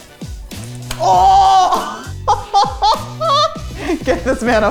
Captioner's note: chuckling